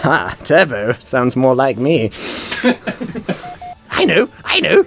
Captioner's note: more laughter